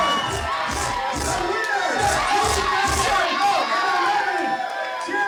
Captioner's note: crowd cheers wildly